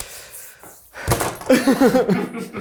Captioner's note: sculpture thuds; people chuckle